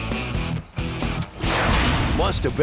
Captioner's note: rock music; Hard Rock Park logo whooshes then clangs